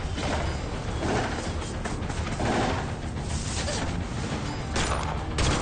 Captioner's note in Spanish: Disparos